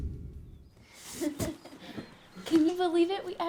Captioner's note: laughing